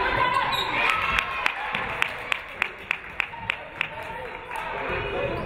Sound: audience clapping

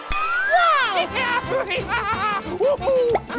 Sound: laughing

